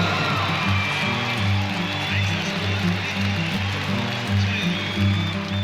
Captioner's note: crowd applauds